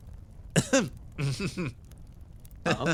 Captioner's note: Gartrinus Laugh